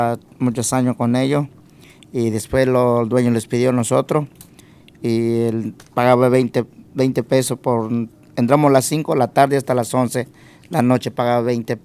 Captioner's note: speaking spanish